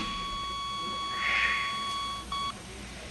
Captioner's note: Постоянен звуков сигнал